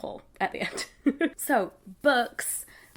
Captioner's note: laughs